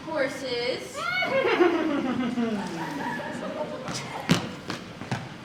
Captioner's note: Ethan whinnies